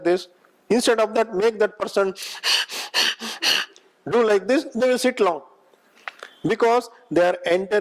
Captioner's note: breathing heavily